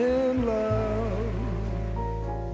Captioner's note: applause